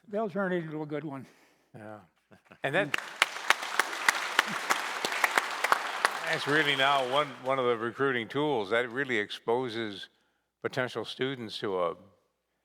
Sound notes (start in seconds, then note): 2.7 applause